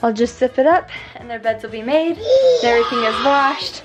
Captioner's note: child screaming